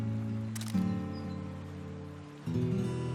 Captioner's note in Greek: ήχος μηχανής